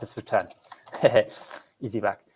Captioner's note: chuckles